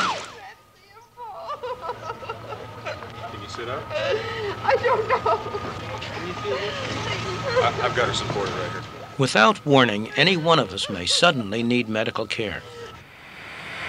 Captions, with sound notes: (woman sobbing) Without warning, anyone of us may suddenly need medical care.